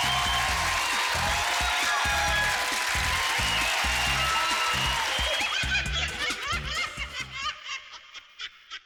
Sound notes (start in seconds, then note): 0.0 cheering; 5.1 laughing